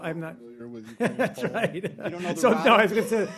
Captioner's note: laughter